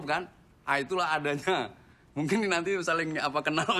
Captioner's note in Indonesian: none